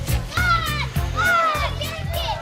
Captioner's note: children screaming